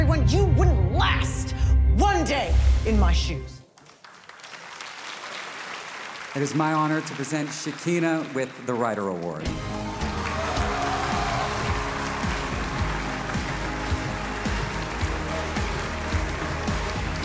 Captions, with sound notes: You wouldn't last one day in my shoes. It is my honor to present Shakina with the Writer Award. - (cheerful music) - (audience cheering)